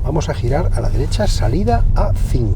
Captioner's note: speaking Spanish